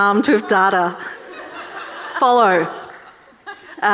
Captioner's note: audience laughing